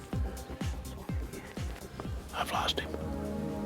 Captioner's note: whispering